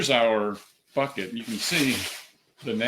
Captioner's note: shaking papers